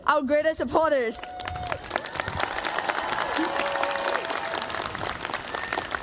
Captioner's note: cheers, applause